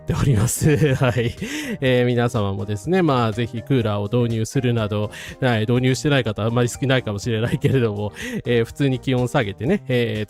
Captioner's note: laughs